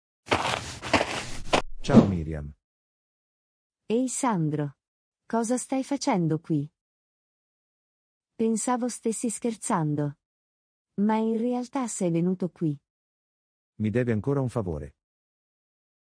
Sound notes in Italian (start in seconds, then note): 0.2 FX - Footsteps - On Multiple Dirt - Walk; 1.7 FX - Whoosh - 03